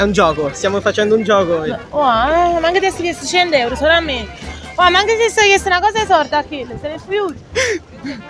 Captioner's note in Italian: dialetto napoletano